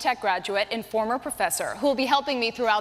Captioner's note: none